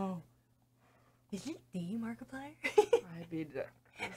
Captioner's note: chuckles